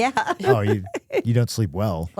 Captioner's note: laughing